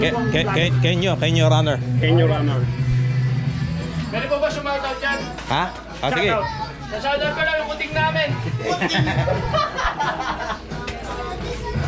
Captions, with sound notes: KENYO, KENYO RUNNER..KENYO RUNNER PWEDE PO BA SHUMAWT OUT DYAN? HA? O SIGE SHASHAWT OUT KO LANG YUNG KUTING NAMIN..*LAUGHS*